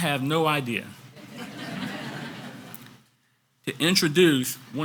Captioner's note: audience laughs